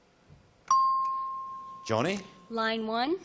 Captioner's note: ping